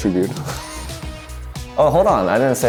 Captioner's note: laughs